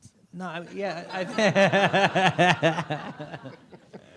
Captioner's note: audience laughs